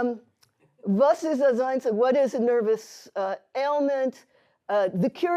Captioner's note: hebrew